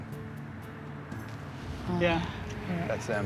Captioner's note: truck approaches in distance